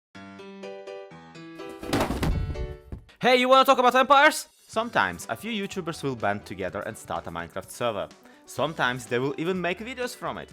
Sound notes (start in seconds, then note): 0.1 happy Piano Music; 1.8 crash